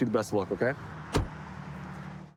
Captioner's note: door bangs